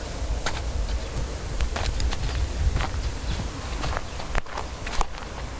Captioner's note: footsteps crunching; wind howling